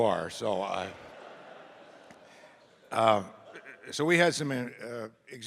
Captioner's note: audience laughing